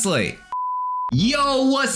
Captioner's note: test card beeps